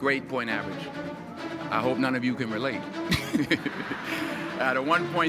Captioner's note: light chuckle